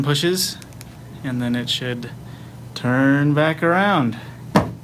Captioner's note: button Clicking